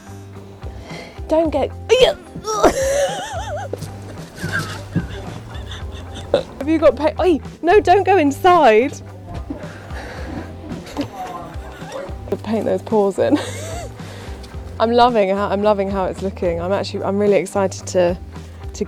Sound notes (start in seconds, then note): 2.0 laughing; 9.4 laughing